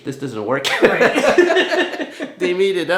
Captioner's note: laughter